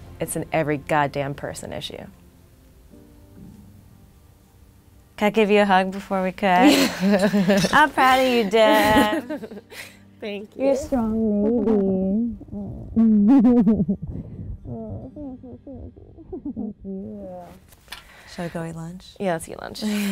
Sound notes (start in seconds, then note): 6.6 giggles; 8.7 laughs; 11.9 ladies laughing